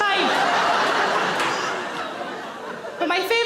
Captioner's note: audience laughing